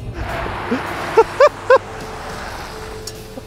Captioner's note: laughs